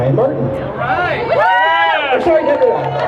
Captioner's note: crowd cheers